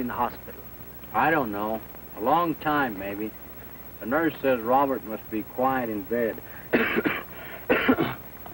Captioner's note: cough